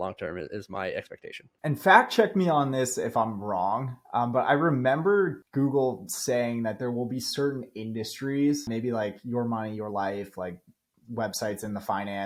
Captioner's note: speaking